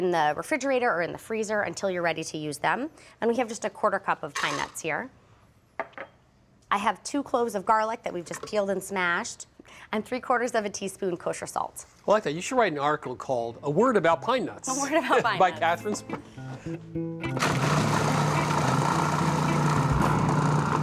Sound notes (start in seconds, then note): 14.6 laughing; 17.4 whirring